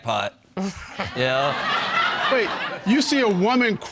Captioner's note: all laughing